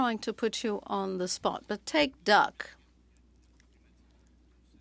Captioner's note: speaking French